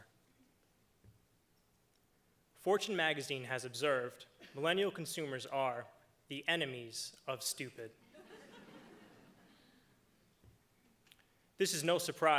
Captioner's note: laughter